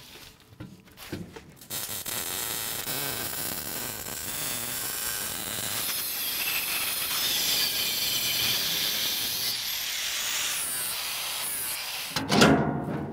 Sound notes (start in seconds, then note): 2.2 welding torch buzzing; 7.9 grinding